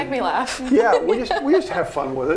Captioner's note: laughing